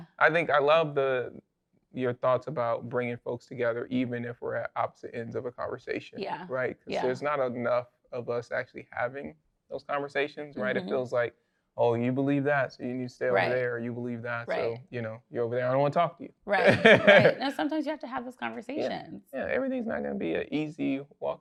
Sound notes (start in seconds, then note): 16.6 laughs